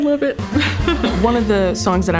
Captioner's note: laughing